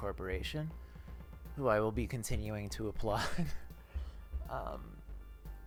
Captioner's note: laughs